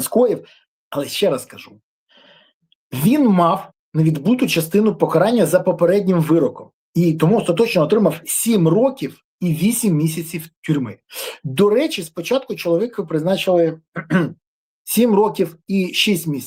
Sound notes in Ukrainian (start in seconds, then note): 11.1 сопіння; 13.9 прочищення горла